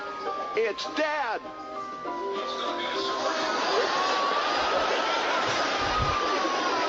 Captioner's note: laugh